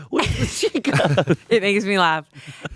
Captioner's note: laughing